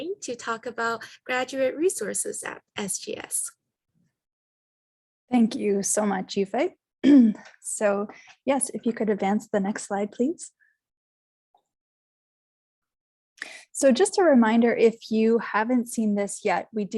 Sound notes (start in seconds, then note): 7.0 clearing throat